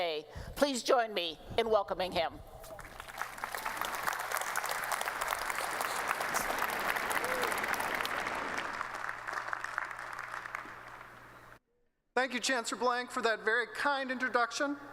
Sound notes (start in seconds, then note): 2.7 applause